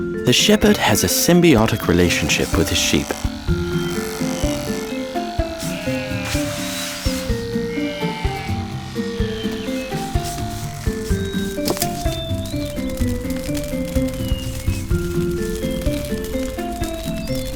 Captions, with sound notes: The Shepherd has a symbiotic relationship with his sheep. (upbeat music) (electric razor buzzing) (fire crackling)